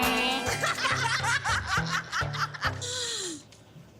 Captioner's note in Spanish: Risas